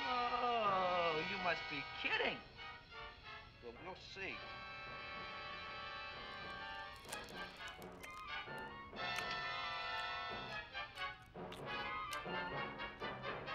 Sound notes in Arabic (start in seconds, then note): 9.0 أصوات مضغ